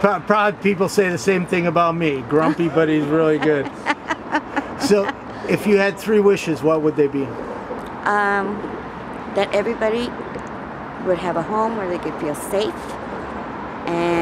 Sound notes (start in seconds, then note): 2.3 laughs